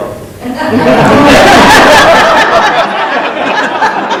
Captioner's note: laughing